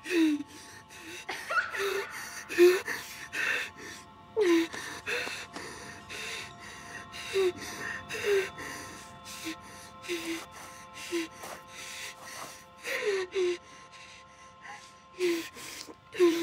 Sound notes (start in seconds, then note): 1.0 Toby laughing